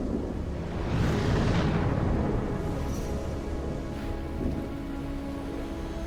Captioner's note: thunder rumbling; dramatic music